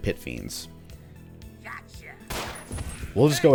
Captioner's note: gunshot, all enemies alerted